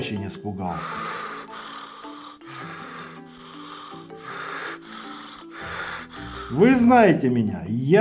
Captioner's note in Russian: звук тяжёлого дыхания